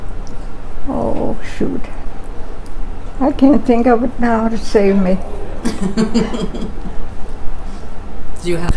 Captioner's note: laughs